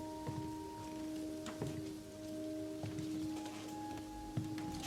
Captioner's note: wood creaking